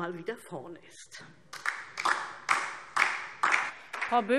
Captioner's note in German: Beifall DIE LINKE und vereinzelt SPD